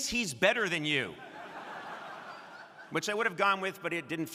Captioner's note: crowd laughing